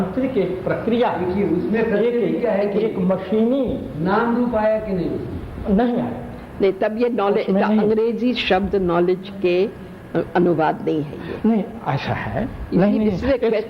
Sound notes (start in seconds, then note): 1.8 discussion in Hindi